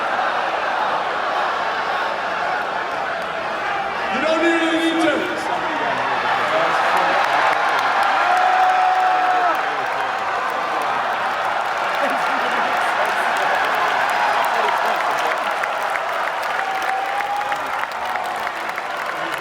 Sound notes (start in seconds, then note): 6.2 crowd cheers; 14.0 crowd clapping